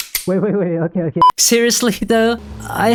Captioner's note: gun cock